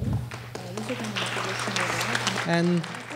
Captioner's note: applause